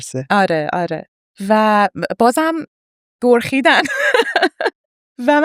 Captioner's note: laughs